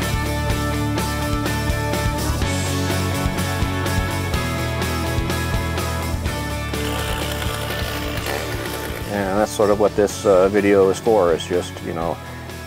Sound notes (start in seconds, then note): 6.6 chainsaw running